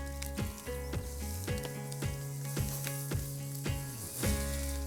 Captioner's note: meat sizzling